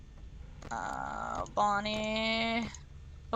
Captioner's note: grumbles